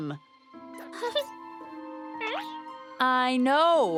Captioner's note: caterpillar noises